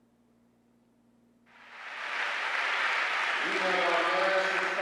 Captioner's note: applause